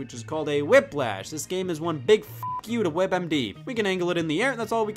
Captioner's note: beeps